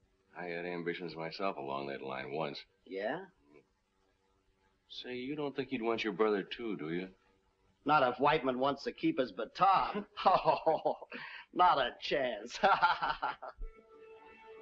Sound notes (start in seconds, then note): 12.5 laughs